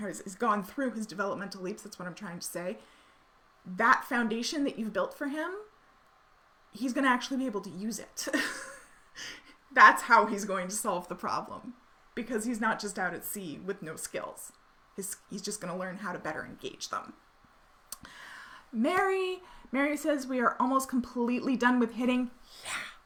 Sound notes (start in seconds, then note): 8.2 laughing